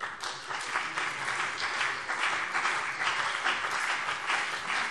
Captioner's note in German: Beifall CDU und BÜNDNIS 90/DIE GRÜNEN